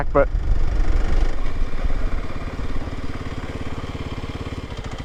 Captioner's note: bike engine revving